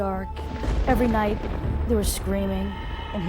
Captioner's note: thunder crashing